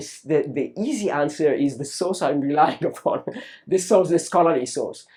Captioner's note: laughs